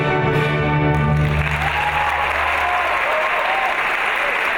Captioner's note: audience applauds